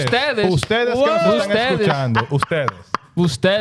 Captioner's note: speaking In Foreign Language